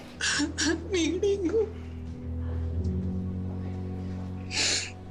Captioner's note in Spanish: Sollozos